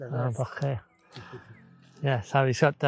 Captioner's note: man speaking in foreign language; speaking in foreign language